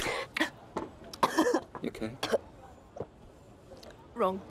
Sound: coughing

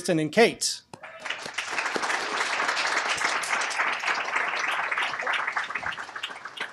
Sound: applause

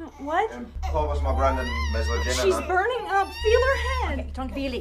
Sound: speaking foreign language; baby contines crying; speaking foreign language

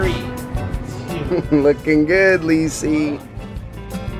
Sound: chuckling

